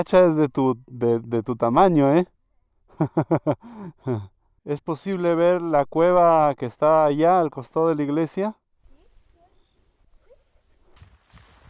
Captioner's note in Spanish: risas